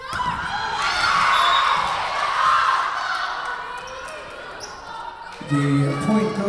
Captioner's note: Lions cheering; whistle blowing